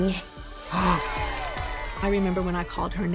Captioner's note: models cheering